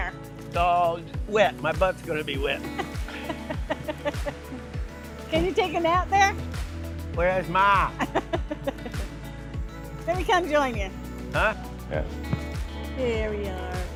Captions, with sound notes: It's all wet. My butt's going to be wet. [LAUGHTER] Can you take him out there? Where is Ma? [LAUGHTER] Maybe come join in. Huh? Yeah. There we are.